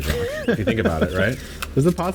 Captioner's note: laughs